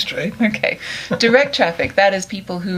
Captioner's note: laughs